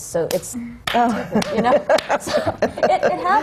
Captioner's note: laughter; claps slowly